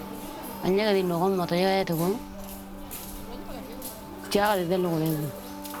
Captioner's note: speaking in foreign language